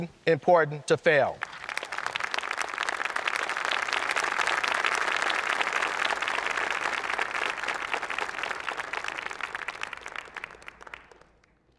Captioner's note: applause